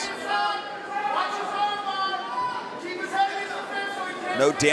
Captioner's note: crowd cheering